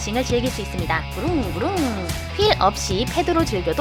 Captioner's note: vroom vroom